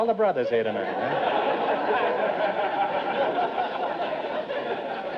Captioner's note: audience laughter